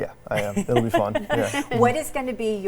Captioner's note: laugh